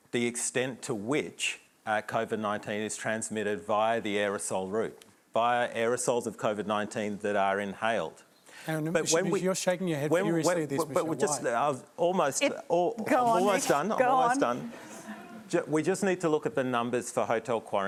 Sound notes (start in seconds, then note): 14.5 laughter